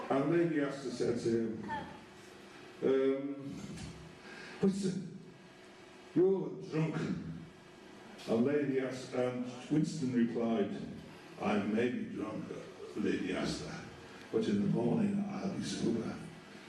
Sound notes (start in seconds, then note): none